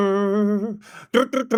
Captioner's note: humming